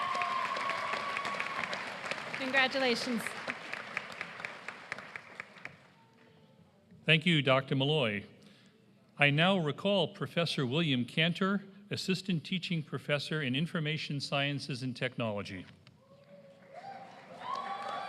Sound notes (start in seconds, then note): 14.6 applause